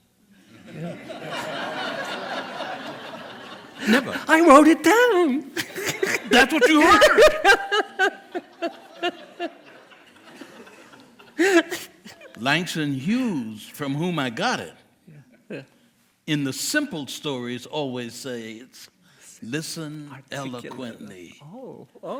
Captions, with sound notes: (chuckles from the audience) Never...I wrote it down..That's what you heard! ( Chuckels from the audience) Langston Hughes from whom I got it.. in the simple stories always say listen eloquently..